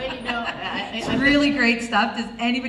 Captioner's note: voiceover